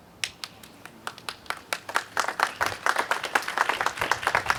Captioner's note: audience applauding